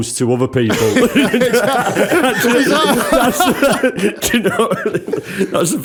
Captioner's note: laughter